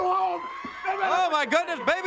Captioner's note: crowd cheering